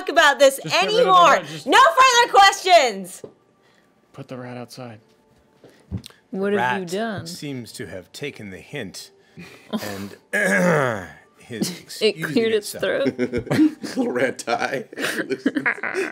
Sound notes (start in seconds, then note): 10.3 clears throat; 14.8 laughing